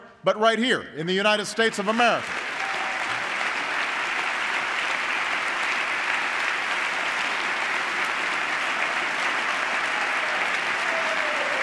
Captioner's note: applause